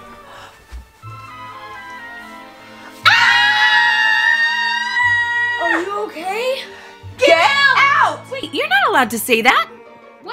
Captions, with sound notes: (screams) - Are you okay? - Get out! - Get out! - Wait, you're not allowed to say that!